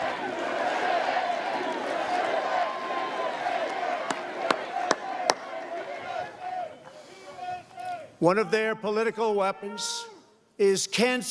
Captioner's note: crowd chanting, "u.s.a.!"